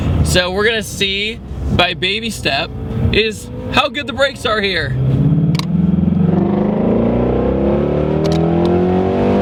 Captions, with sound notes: So we're going to see by baby step is how good the brakes are here. (car engine)